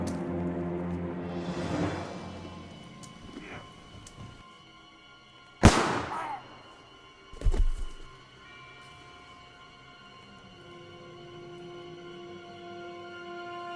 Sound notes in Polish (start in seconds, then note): 5.5 wystrzał, jęk kozaka, odgłos kościelnego dzwonu